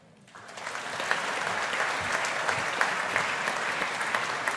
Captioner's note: audience applauding